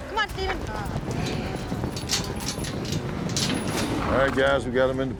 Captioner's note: hoofbeats, gate clanking